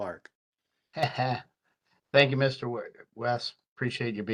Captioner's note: chuckles